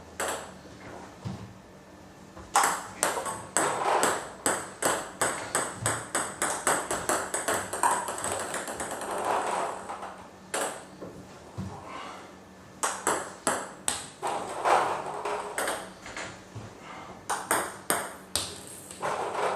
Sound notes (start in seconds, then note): 5.6 balls ping pong hitting continues; 14.5 balls ping pong hitting continues